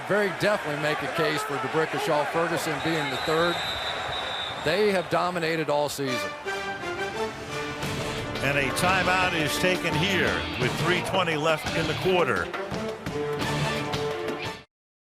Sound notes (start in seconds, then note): 4.1 whistle blowing; 6.9 rock music; 13.0 rock music